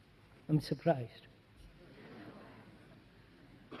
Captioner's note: laughter